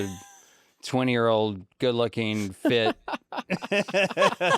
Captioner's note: laughs